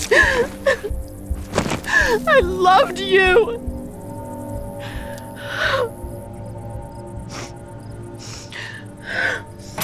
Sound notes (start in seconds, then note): 5.4 crying